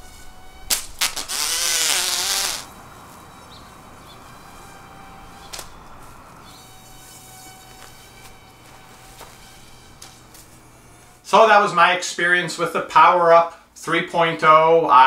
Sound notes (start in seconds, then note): 1.0 buzzing